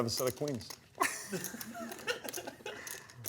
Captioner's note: laughter